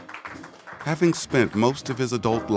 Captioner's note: applause